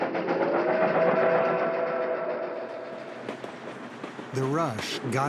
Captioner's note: train whistle blowing